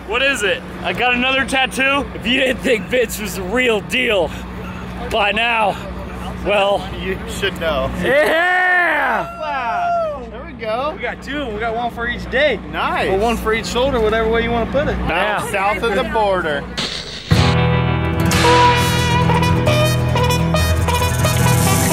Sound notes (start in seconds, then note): 8.1 cheers; 16.7 upbeat Latin music; 16.7 static noise